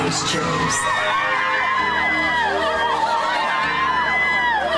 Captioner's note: women cheering